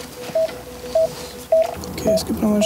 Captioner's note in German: Regelmäßiges Piepsen